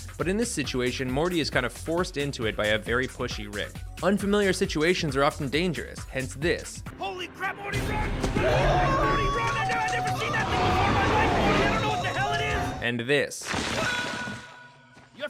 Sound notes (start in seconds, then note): 8.2 screaming and monster roars; 13.7 Morty screams